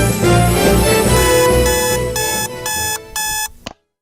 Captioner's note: alarm clock beeping